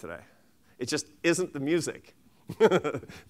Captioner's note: laughs